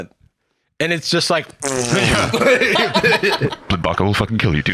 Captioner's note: laughs